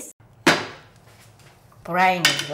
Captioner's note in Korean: 뚜껑 여는 소리